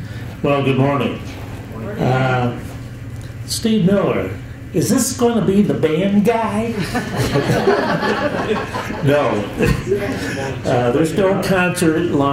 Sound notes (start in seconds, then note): 6.7 chuckles